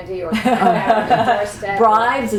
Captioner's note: laughter